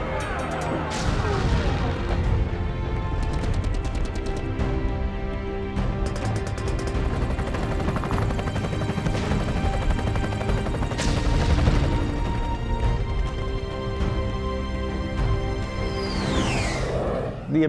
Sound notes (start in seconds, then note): 1.0 explosions boom